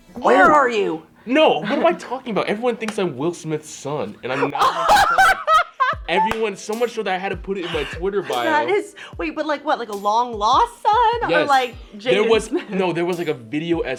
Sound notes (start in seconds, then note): 4.3 Elle laughs